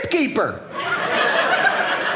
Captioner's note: audience laughing